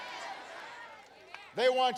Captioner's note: applause